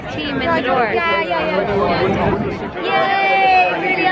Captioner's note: crowd chattering